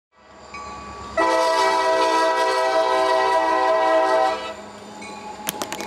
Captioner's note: blast of train whistle!